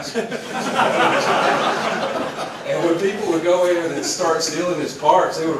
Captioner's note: laugh